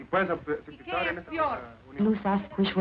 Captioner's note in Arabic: امرأة تتحدث الإسبانية